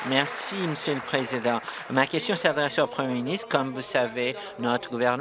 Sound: applause

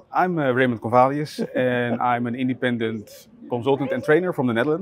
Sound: chuckling

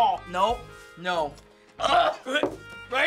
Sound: gagging

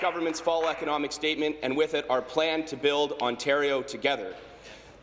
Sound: applause

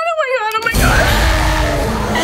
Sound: creature roaring; whimpers

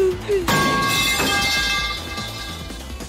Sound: crash!

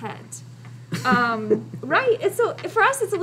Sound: chuckling

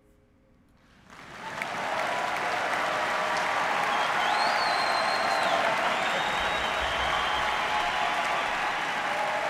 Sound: applause

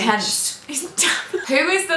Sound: laughter

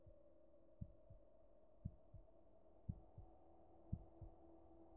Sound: heart beating

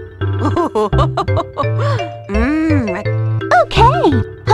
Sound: Pauline laughing

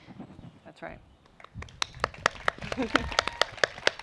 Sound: applause

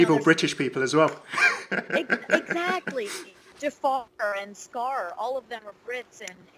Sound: laughs

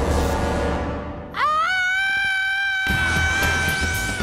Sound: intense music; Leela screams

